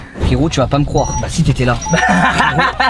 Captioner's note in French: rire